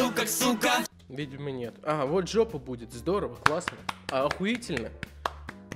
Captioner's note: clap